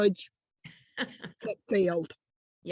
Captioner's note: laughs